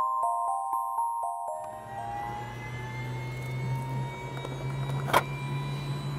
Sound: helicopter starting up

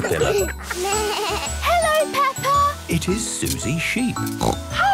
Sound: bleating; snorting

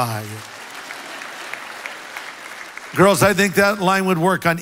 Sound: congregation applause

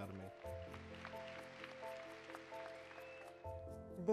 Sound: applause

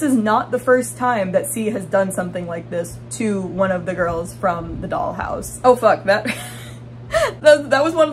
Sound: laughing

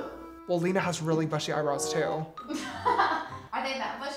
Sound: laughs

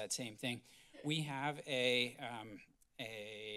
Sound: coughs

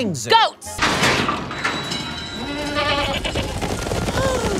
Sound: bleating; gasps

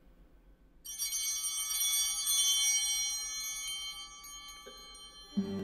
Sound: bell ringing

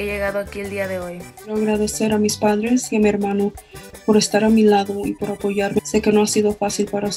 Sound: speaks in foreign language

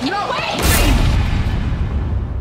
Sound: door slams

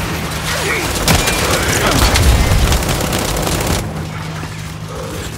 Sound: gunfire

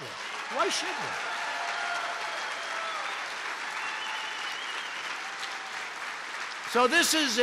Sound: applause

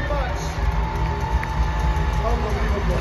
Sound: crowd continues screaming

